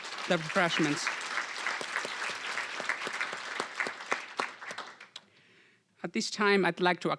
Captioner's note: applause